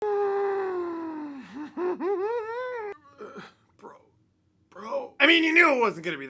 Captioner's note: stress noises